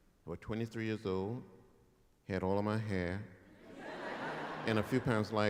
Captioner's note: laughter; chuckles